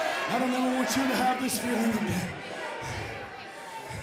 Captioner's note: crowd cheering